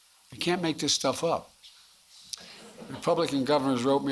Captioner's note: laughter